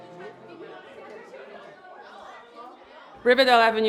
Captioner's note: background chatter